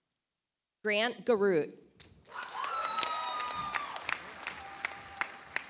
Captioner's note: audience applauds